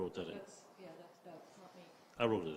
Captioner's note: indistinct chatters